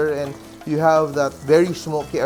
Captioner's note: sizzle